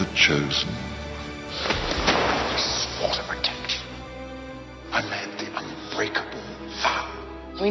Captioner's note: slams against the wall